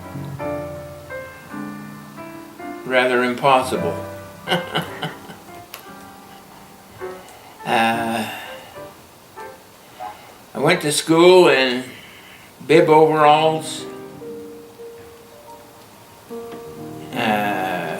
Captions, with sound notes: rather impossible. (Laughter) I went to school in bib overalls.